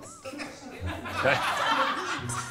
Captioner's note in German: Gelächter